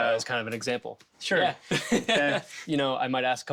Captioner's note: laughs